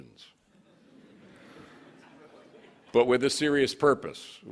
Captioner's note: laughing